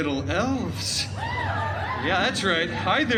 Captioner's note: guests cheering